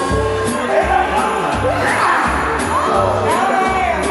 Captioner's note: laughing